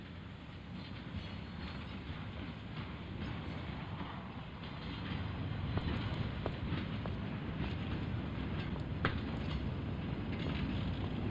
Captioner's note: train rumbling in distance